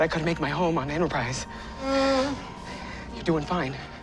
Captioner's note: Stamets groaning